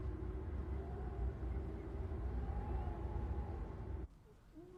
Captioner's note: wind howling